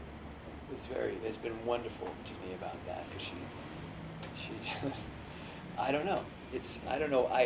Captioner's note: laughs